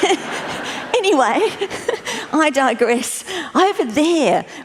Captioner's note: laughter